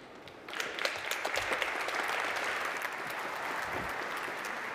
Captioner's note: applause